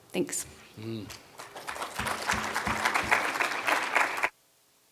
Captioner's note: applause